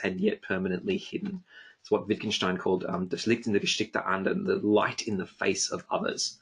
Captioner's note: foreign language